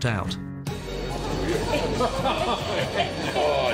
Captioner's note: people laughing and chattering